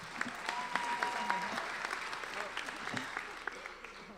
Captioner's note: applauding